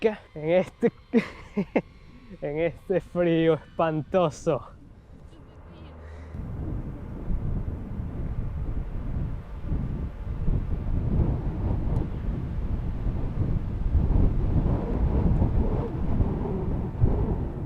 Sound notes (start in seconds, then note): 6.7 icy wind sound